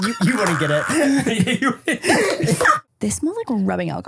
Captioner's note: laughs